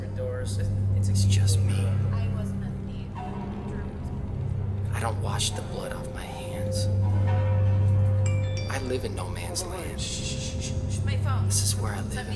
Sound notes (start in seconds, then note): 8.8 phone rings